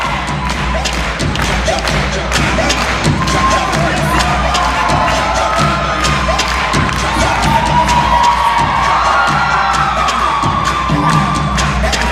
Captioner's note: audience clapping rhythmically and cheering